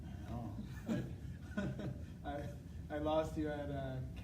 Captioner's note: chuckling